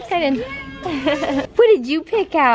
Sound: laughs

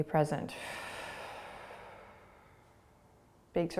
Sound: exhaling

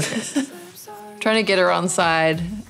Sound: laughter

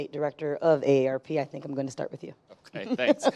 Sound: laughs

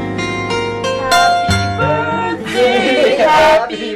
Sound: Toni chuckles

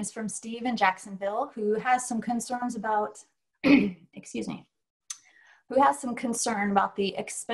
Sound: clears throat

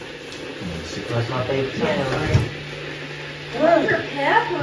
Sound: kettle boiling

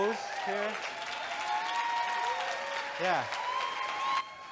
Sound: audience cheering and clapping

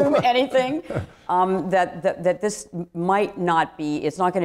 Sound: laughs

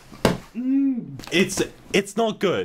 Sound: noises of agony

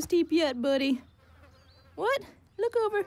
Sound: flies buzz

